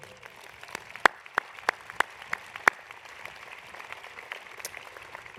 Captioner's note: applause